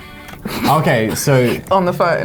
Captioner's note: laughs